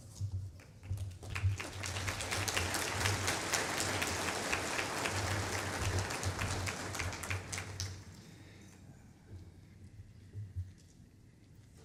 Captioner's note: applause